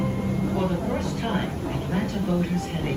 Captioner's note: background tv